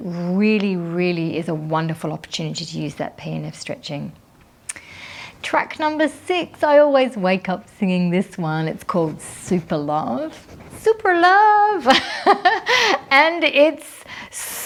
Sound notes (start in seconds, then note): 11.8 laughing